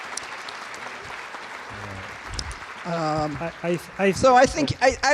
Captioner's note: applause